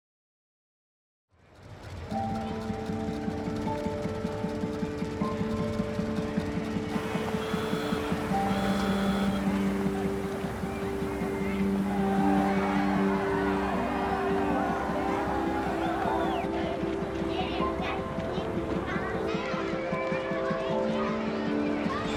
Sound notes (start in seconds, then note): 6.9 car engine puttering, horn honking; 12.4 crowd cheering; 16.3 children chattering